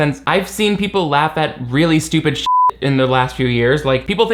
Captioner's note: beep